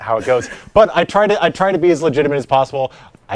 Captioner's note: light laughter